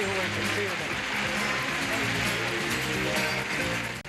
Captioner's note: audience applauding